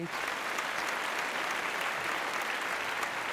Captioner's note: applause